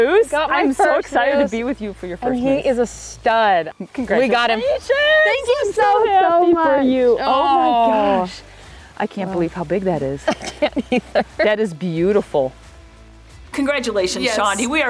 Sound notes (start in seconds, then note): 10.2 laughs